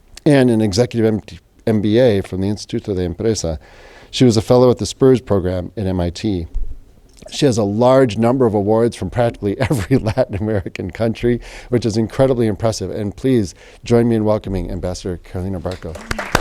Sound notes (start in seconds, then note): 9.6 laughs